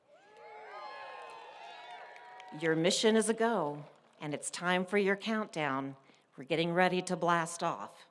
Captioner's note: applause